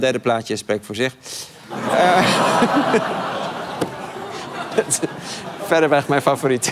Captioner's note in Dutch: gelach